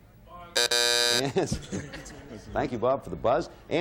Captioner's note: buzzer sounding